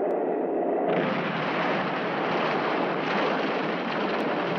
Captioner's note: explosion booming